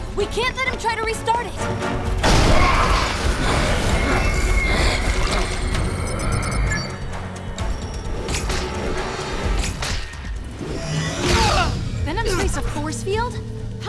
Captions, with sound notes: We can't let him try to restart it. [BEEPING] [SHOUTS] Venom's raised a force field?